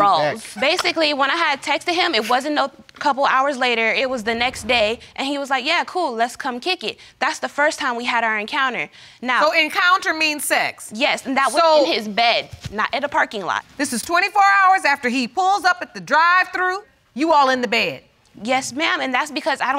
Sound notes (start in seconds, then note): none